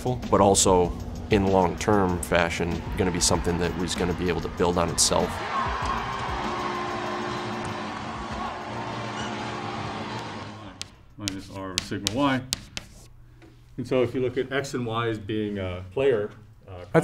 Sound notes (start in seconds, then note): 5.4 horn blaring; 5.6 spectators cheering